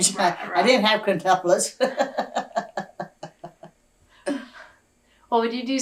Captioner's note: laughs